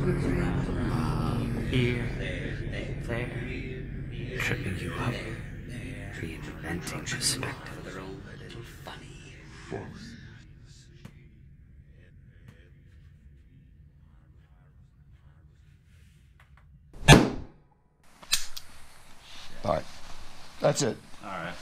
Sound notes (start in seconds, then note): 17.0 gunshot booming; 18.3 gun clicking